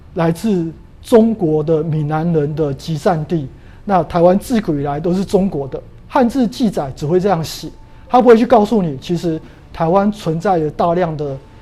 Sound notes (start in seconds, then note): 6.2 chinese words